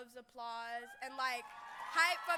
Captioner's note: cheering